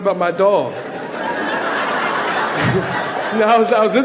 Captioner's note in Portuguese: Platéia ri